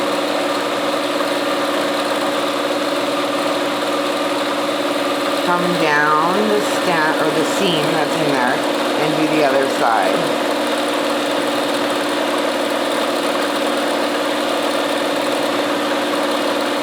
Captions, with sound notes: Come down the seam that's in there and do the other side. (machine whirring)